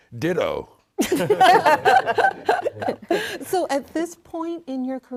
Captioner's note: all laughing